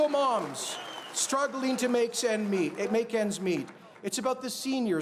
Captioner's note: cheers and Applause